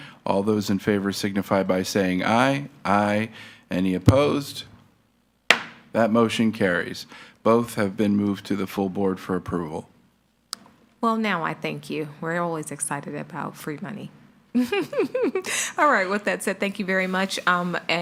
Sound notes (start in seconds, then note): 5.5 gavel thuds; 14.6 giggles